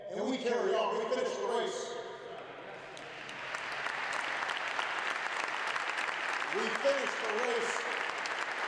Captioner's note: applause